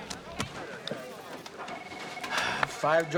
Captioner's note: sighing